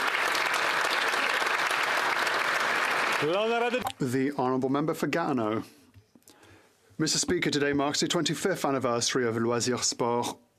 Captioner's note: applause